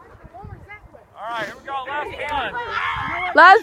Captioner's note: screaming